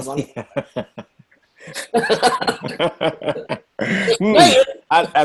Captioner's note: group laughing